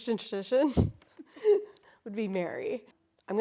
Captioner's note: both laughing